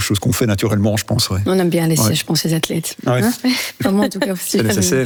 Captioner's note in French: rire